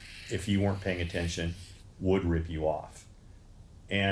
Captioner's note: clicks and whirs